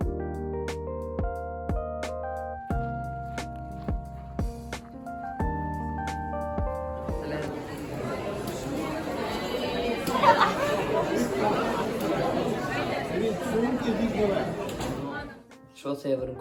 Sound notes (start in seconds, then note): 8.1 people talking